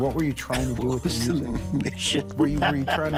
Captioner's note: laughs